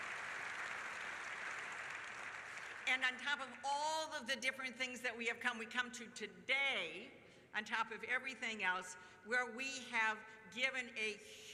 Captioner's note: applause